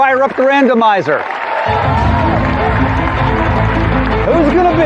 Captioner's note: cheering and applause; dramatic music